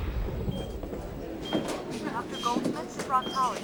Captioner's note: heart monitor beeping; announcer speaking